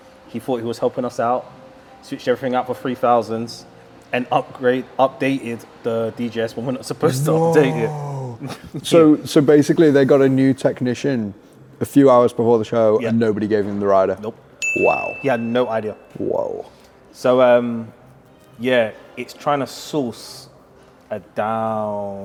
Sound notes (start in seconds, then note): 14.6 graphic dings